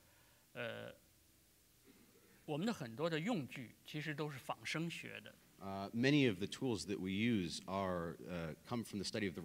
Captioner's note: speaking in Chinese